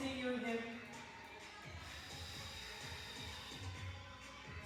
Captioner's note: breathes